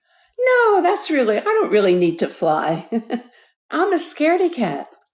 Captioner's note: laughs